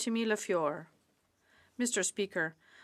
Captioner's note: speaking French